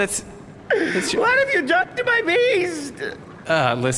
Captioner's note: crying; deep breath